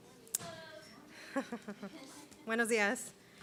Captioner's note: laughter